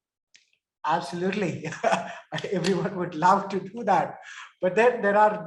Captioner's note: chuckles